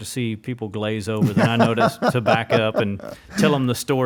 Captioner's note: laughs